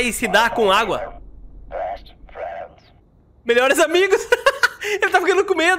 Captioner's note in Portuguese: risos